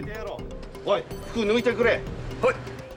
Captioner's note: non-english speech